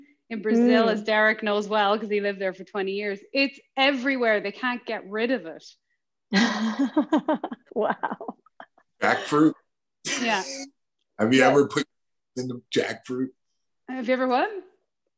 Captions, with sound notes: in Brazil, as Derrick knows well because he lived there for 20 years, it's everywhere-- they can't get rid of it. (laughs) Wow. - Jackfruit... - Yeah. Have you ever put your hand in a jackfruit? Have you ever what?